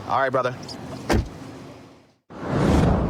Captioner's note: door shuts